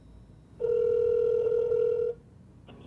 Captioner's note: cellphone ringing